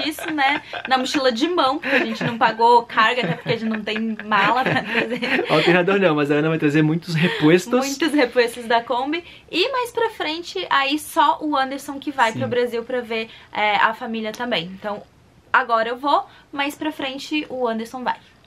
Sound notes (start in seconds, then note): 4.6 haha; 7.3 replacements, in Spanish